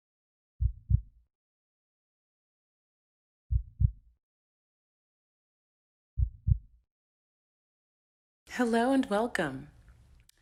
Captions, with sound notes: [heartbeat] [heartbeat] [heartbeat] Hello, and welcome.